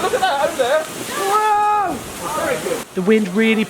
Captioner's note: yells